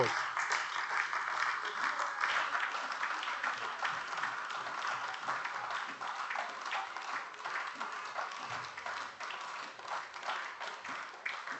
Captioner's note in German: Beifall AfD